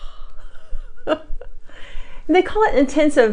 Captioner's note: laughs